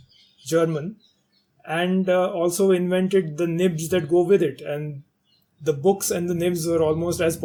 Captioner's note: German